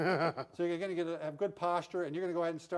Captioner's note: laughing